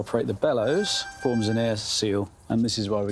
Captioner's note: synch sound